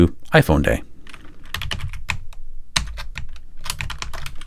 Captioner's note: typing